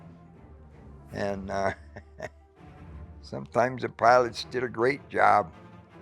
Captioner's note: chuckles